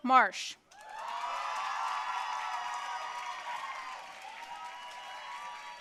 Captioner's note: audience cheering and applauding